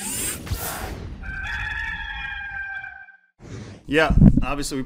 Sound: rooster crows

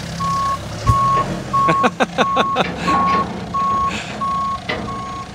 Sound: laughter

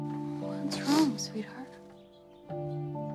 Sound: sniffles

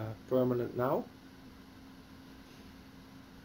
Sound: pause

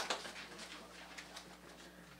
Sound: applause

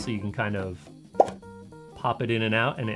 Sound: popping sound

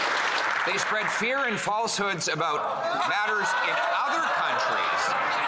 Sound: some Applause

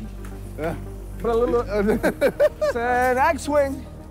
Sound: laughs

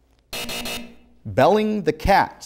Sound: buzzing

